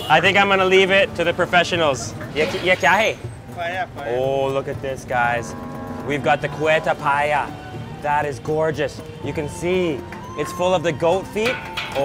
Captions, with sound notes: I think I'm going to leave it to the professionals. (speaking in foreign language) - Paya, Paya. - Oh, look at this guys. We've got the Quetta paya. That is gorgeous. You can see it's full of the goat feet.